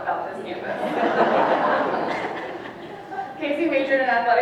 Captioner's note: audience laughs